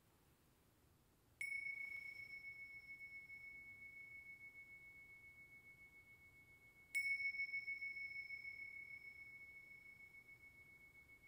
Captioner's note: bell ringing